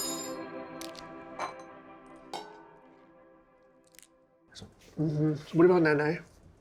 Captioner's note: cutlery clattering; pensive music; legs cracking; plate dinging